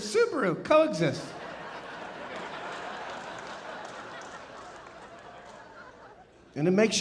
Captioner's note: audience laughing and applauding